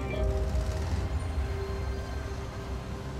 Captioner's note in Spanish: sonido de motores